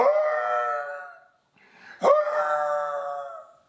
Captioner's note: screams